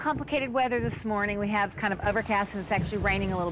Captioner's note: wind whooshes